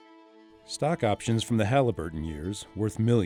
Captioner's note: voiceover